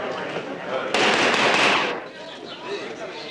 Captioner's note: banging